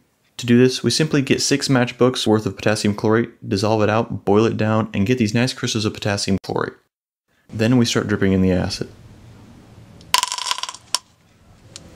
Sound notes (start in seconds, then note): 10.0 malicious crackling and popping sounds